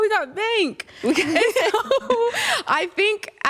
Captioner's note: laughter